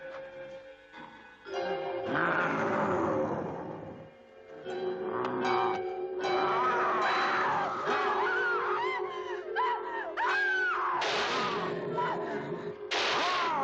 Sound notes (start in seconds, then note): 6.3 Priscilla screams; 11.1 gun banging; 13.4 werewolf growls